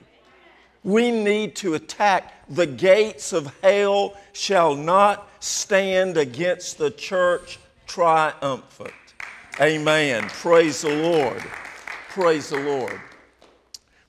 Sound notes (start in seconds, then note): 8.8 applause